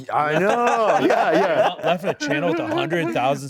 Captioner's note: laughs